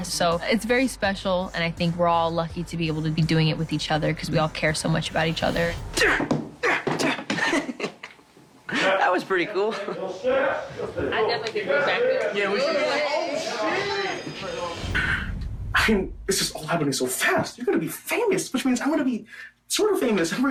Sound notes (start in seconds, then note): 6.6 grunts, Chuckles